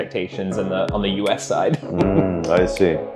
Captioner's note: laughs